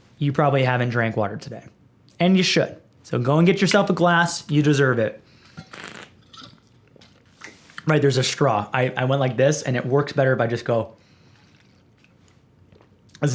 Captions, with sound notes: - You probably haven't drank water today and you should, so go and get yourself a glass. You deserve it. (gulping) Right. There's a straw. I went like this and it works better if just go. (Sipping)